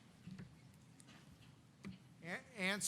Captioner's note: none